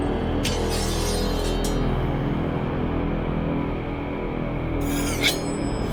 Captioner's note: knife blade singing continues